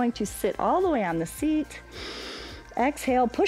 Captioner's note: inhales